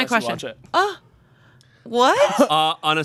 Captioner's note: scoffing